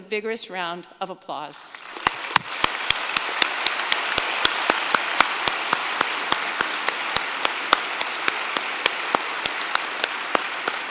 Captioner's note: applause